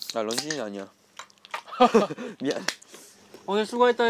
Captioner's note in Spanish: Jajaja